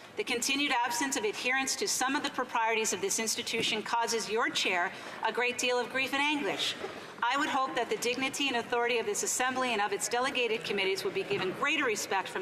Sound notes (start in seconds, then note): none